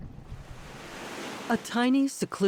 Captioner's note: bubbles in water column; waves brushing shore